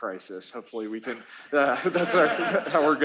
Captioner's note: laughter